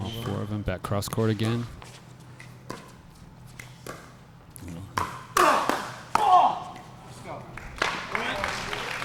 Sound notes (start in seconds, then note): 4.9 ball being smacked; 5.4 players grunting; 7.5 applause